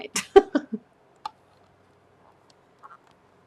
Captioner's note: laughs